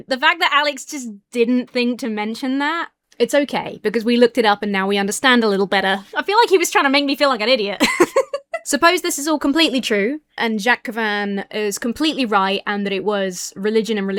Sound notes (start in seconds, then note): 7.7 laughs